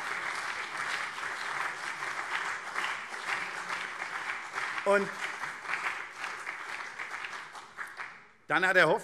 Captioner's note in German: Beifall CDU und vereinzelt SPD